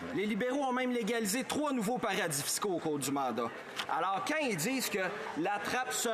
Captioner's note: speaking French